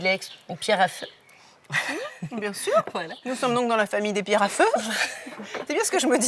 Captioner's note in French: rires